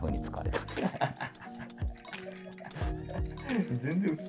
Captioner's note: laughing